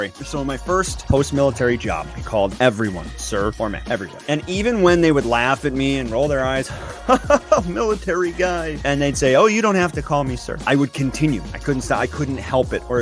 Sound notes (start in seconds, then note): 6.6 laughs